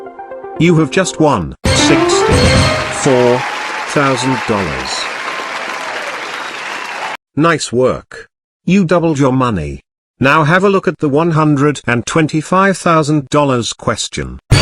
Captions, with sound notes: You Have Just Won 64 Thousand Dollars [Audience cheering] Nice work You Doubled Your Money Now Have A Look At The $125,000 Question